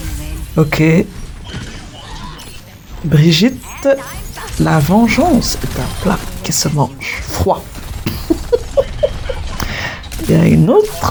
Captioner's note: laughs